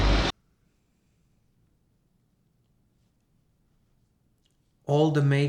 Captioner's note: awkward Silence